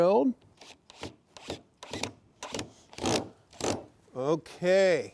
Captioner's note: drill ratcheting